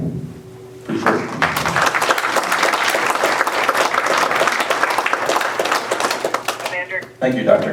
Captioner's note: applause